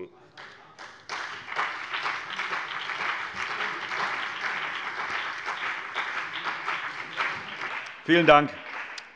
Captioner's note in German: Beifall BÜNDNIS 90/DIE GRÜNEN und CDU